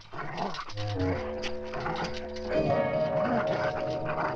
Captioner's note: dog growling